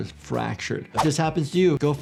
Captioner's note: graphics whooshing